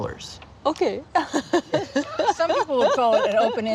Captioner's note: laughing